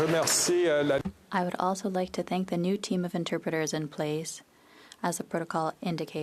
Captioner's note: applause